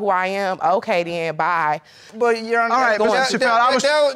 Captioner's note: stammers